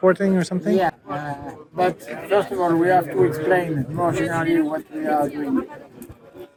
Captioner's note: crowd noise